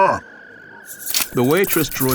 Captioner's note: mechanical clacking